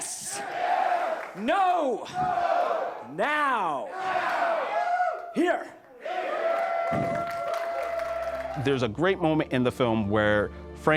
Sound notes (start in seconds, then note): 5.7 audience claps and cheers